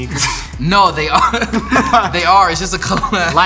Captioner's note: laughing loudly